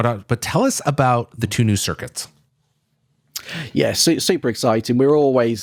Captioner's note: none